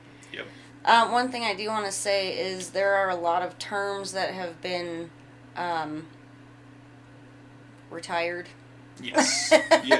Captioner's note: laughs